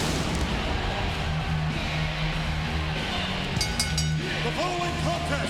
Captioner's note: bomb falling; pyro exploding; rock music; bell ringing